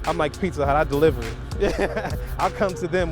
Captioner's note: laughs